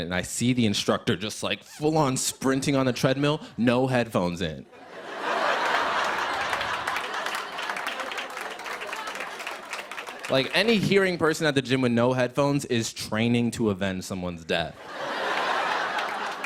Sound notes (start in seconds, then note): 4.7 laughter and applause